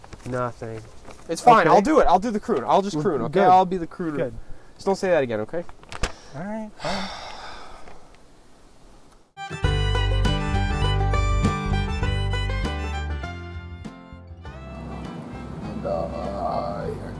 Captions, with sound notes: -Nothing. -Okay. -It’s fine. I’ll do it! I’ll do the croon. I’ll just croon. Okay? I’ll be the crooner. -Good. Good. -Just don't say that again, okay? -Alright, fine. [STOKE SIGHS] [UPBEAT COUNTRY MUSIC] -And, uhhhh...